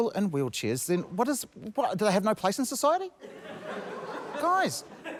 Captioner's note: laughter